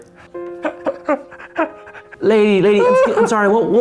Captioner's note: sobs